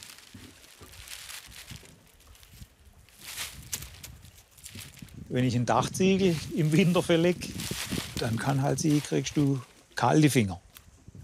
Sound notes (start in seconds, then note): 3.0 rustling